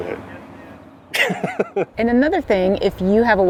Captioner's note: laughs